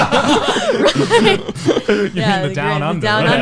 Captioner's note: laughs